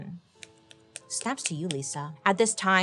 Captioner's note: fingers snap